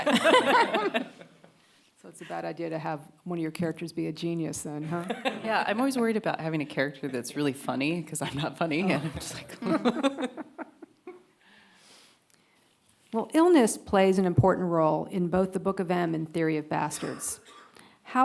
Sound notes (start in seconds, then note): 0.0 panelists laugh; 8.7 panelists laugh